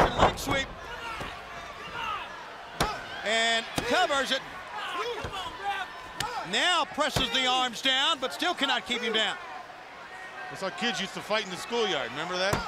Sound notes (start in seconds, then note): 4.6 crowd chatter